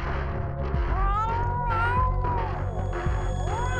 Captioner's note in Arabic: خرخرة القط